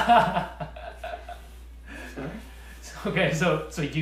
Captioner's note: laughter